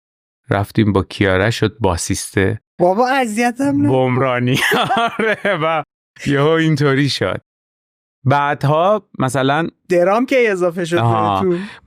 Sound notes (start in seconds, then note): 3.7 laughs